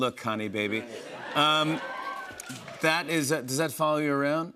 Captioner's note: cheers and applause